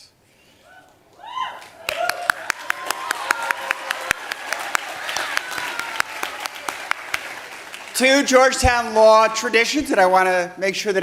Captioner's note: cheers and applause